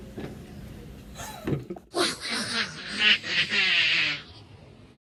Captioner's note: evil laughing